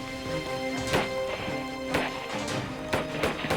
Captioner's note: guns bang